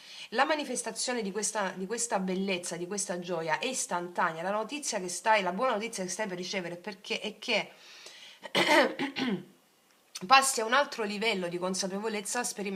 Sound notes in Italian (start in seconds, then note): 8.4 tosse; 8.5 schiarire la voce